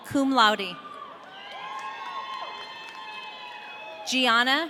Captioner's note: audience cheering